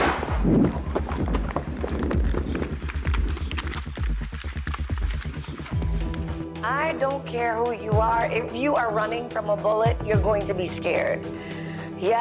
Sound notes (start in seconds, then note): 0.0 gunshot blasts; 0.0 footsteps thudding; 1.4 suspenseful music